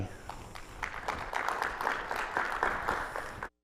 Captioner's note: audience clapping